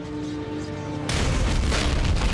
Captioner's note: door explodes